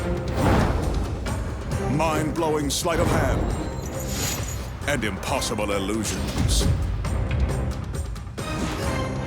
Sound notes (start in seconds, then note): 0.1 smoke puffing; 3.8 chain rustling; 6.4 dramatic drumming music